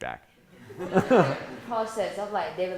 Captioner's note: laughing